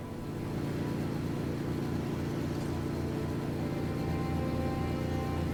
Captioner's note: engine humming